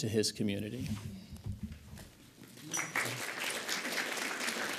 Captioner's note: audience applauds